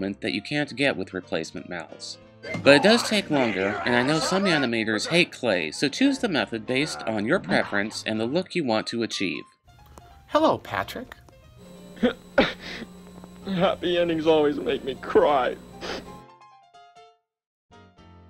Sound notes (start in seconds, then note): 11.9 sob; 15.8 sniff